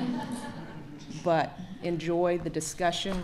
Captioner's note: laughter